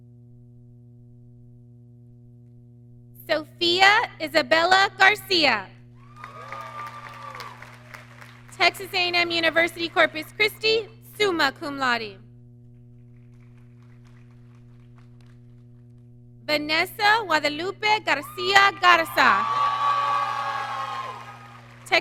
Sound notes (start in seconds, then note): 6.0 audience cheering; 18.1 audience cheering